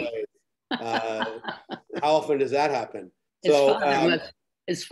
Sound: laughs

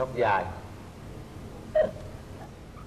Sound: laughter

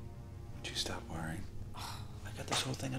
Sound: sighs

